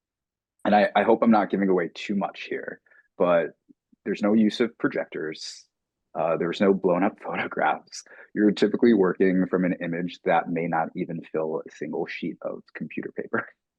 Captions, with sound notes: And I hope I'm not giving away too much here, but there's no use of projectors, there's no blown-up photographs. [chuckling] You're typically working from an image that may not even fill a single sheet of computer paper. [laughing]